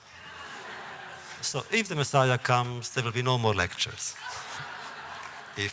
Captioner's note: laughter; laughter